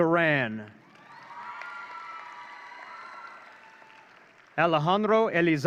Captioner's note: audience cheering